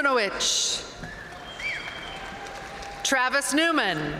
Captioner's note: audience cheering and applauding